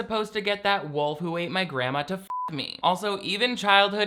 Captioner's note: beep